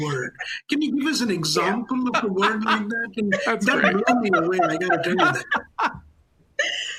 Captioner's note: laughter